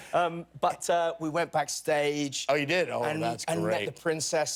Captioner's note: laughter